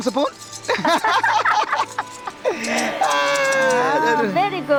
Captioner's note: everyone laughing